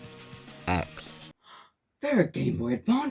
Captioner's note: gasp